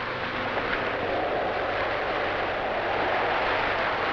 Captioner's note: wind howls